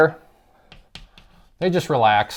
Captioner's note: chalk writing